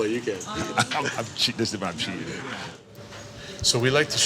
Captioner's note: chuckles; laughing